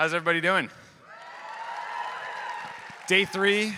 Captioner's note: audience cheering